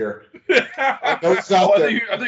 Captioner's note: laughing